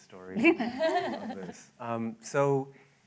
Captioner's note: laughter